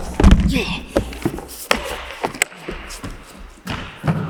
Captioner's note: Jacob grunting; body thudding; Jacob groans